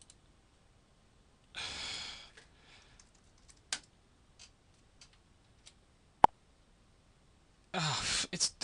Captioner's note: sigh